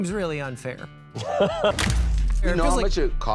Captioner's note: men laughing